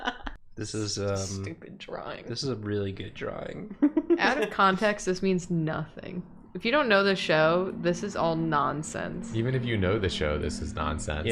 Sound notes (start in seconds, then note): 3.9 giggle